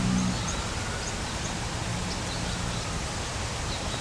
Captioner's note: birds Chirping